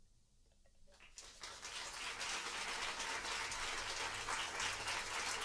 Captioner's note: applause